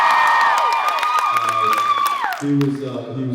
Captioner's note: cheers, applauds